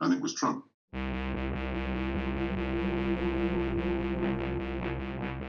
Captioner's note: dark oscillating tone